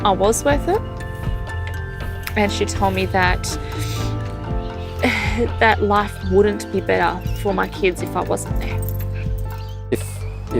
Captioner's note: breathes